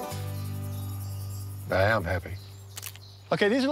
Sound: shutter clicks

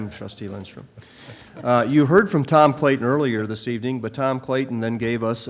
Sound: laughter

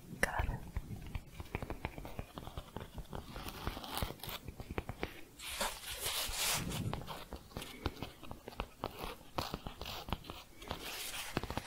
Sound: tapping and scratching

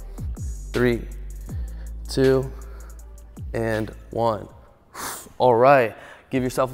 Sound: exhales

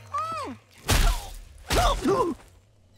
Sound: grunting

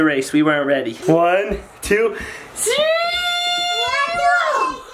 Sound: shouts

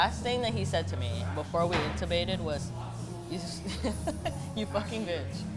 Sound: giggles

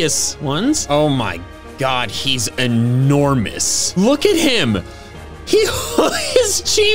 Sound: laughs

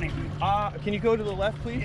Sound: fish splashing

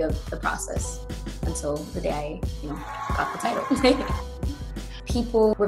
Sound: chuckles

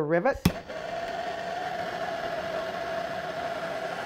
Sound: hissing

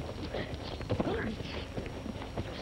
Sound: grunting

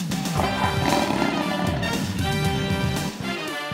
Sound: tiger roars

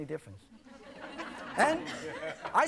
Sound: audience laughing

